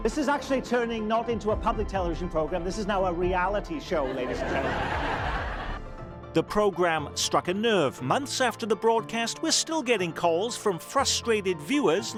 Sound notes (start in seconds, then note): 4.0 audience laughs